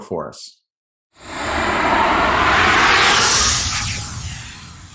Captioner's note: air whooshing